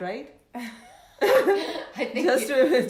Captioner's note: laughs